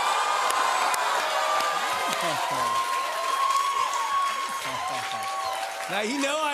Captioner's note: cheers and applause; chuckling